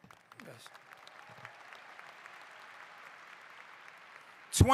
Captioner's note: applause